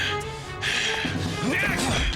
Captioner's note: dramatic music; scuffling